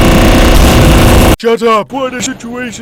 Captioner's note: In Villager Voice